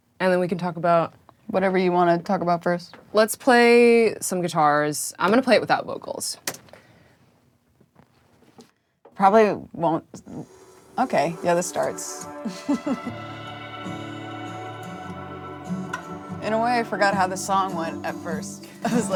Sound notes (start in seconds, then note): 11.3 soft instrumental music; 12.4 chuckles